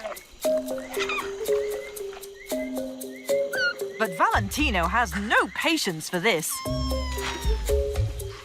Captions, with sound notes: (Valentio squeaking) But Valentino has no patience for this,